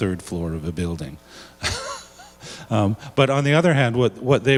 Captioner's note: laughs